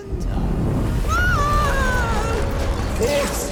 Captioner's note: screaming